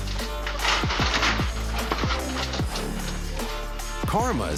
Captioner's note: fence rattling